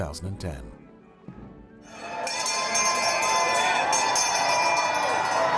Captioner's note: bell ringing